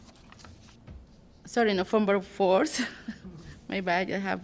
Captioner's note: laughter